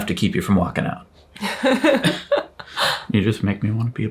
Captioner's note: chuckles